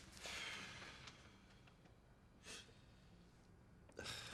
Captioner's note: Gordon sighs